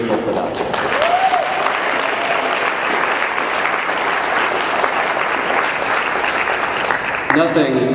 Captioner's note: clapping